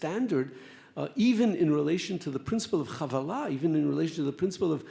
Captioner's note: speaks Hebrew